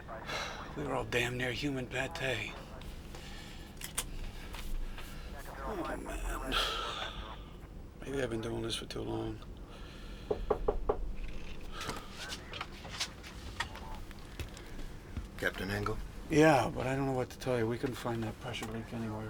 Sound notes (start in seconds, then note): 6.4 sighs; 10.2 knock On Door